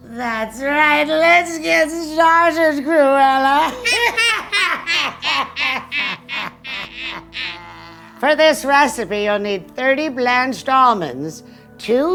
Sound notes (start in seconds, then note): 3.6 both laughing